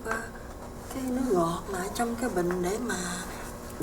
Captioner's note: speaking vietnamese